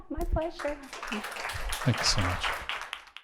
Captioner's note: audience applauding